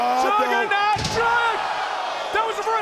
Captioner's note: audience cheers